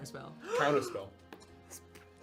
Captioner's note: gasps